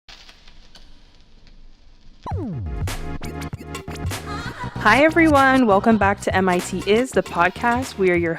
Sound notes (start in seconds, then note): 0.4 rattling sound; 2.2 upbeat music